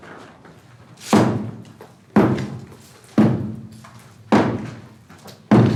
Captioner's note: explosion bangs; hammer crashing